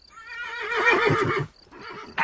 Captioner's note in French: Hennissement